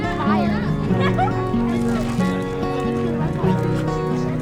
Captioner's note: laughs; cheerful guitar music